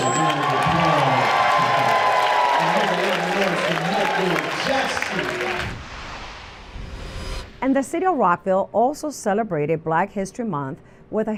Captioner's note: cheers and applause